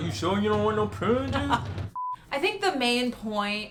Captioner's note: laughing